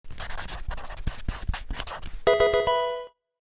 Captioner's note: pen writing; Pokemon game sound